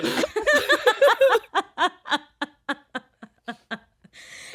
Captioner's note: all laughing